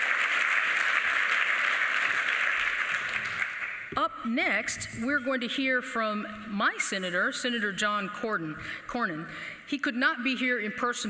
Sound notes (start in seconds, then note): 0.0 applause